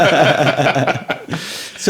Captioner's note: laughing